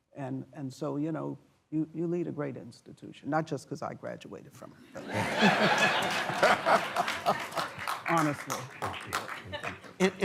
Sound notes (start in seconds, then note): 5.0 laughter and applause